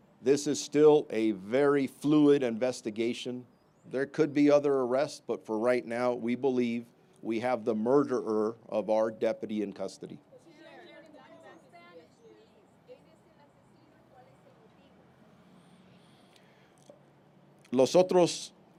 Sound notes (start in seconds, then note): 12.6 reporter speaking Spanish; 17.5 speaking Spanish